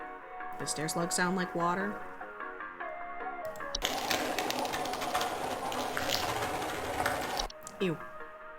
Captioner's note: horrible wet crunching